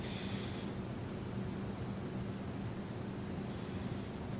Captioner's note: breathing noisily